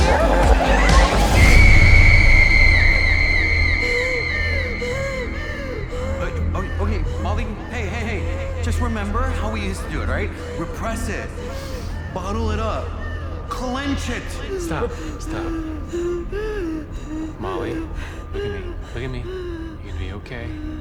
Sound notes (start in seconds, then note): 3.3 breaths heavily; 10.9 inhales deeply